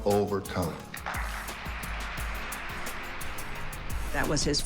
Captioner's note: audience applauding